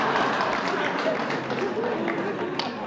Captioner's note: applause